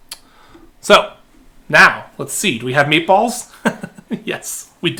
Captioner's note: laughing